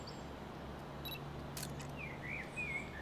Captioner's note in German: Kamera piepst und klickt